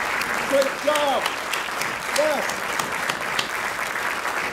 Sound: crowd clapping

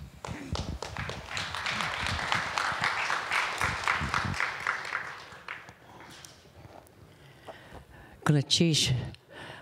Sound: applause

